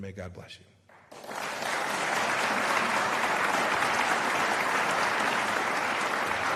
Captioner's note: applause